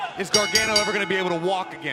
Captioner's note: bell ringing